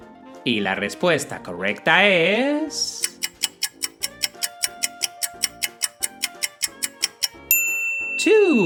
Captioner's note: clock ticking sound